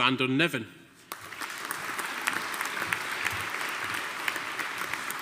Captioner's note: audience applauding